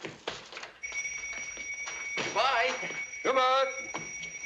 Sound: bell ringing

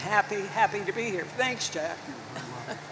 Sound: chuckles

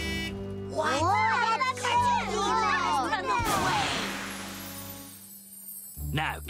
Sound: overlapping excited chatter

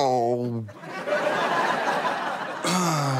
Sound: audience laughter

